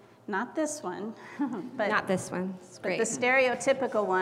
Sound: laugh

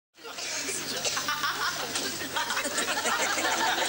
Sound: people laughing

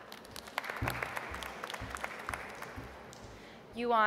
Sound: audience applauds

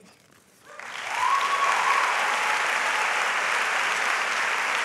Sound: audience applauds

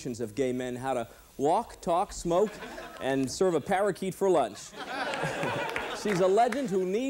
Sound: laughter

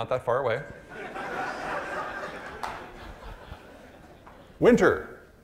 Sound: audience laughing

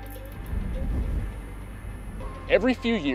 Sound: wind blowing

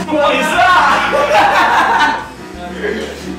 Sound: laughs

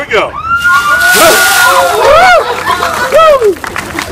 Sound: cheers

